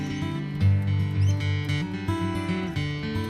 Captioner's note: bees buzz; birds twitter